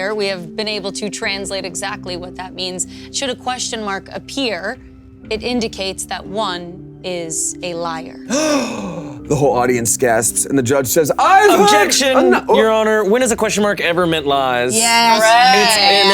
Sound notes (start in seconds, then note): 8.3 Damien gasping sharply